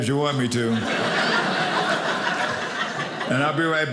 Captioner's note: audience laughing